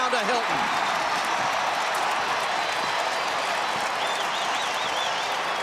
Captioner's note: cheering